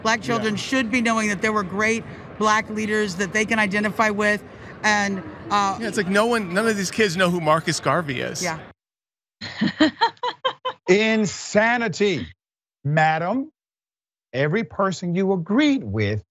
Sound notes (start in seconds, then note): 9.5 laugh